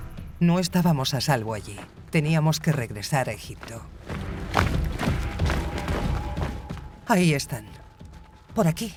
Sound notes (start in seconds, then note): 4.1 footsteps thudding